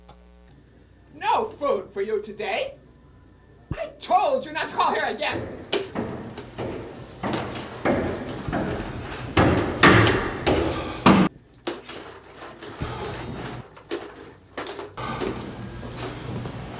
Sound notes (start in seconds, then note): 6.7 footsteps; 11.7 cleaning sounds